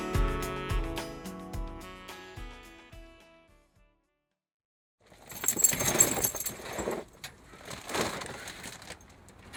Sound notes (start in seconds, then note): 5.3 dog tags clinking